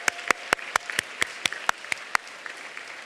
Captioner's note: applause